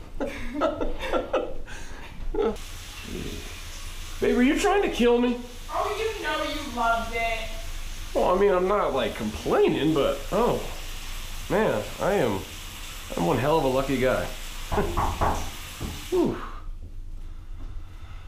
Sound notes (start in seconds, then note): 0.3 laughing; 14.7 knocking at door